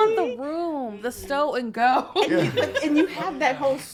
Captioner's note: laughs